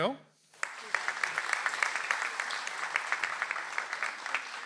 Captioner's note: audience applauds